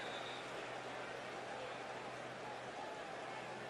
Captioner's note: whistle